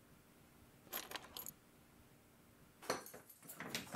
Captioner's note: keys jangle